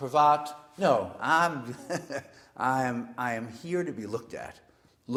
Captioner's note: laugh